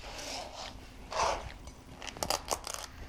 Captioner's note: shell crunching